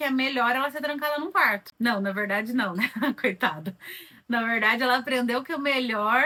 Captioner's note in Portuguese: risadas